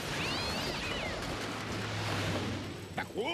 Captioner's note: cat shrieks